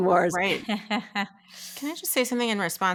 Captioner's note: laughing